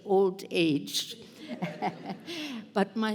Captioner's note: laughter